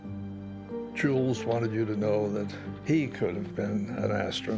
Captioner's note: none